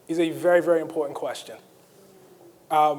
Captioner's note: none